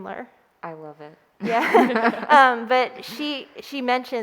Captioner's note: laughing